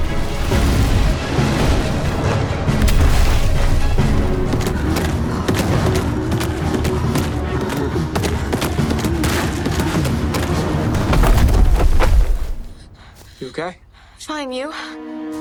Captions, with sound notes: [loud crash] - You okay? - Fine, you?